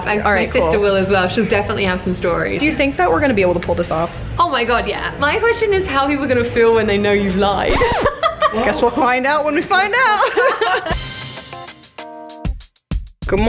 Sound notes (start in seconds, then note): 7.7 laughs; 10.5 upbeat music